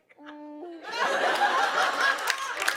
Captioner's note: laughter and applause